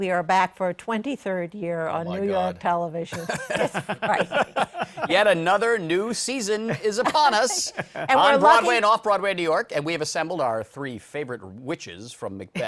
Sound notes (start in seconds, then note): 3.1 chuckles